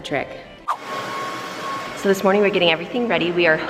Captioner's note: vacuum whirring